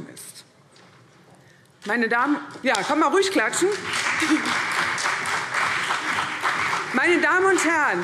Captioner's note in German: Beifall CDU und vereinzelt BÜNDNIS 90/DIE GRÜNEN